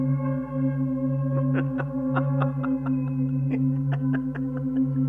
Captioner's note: Hans chuckling